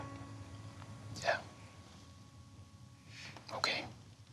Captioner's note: whispering